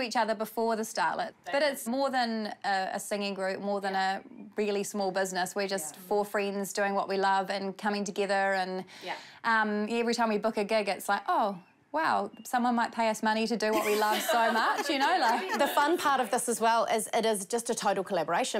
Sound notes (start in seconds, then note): 13.8 all laugh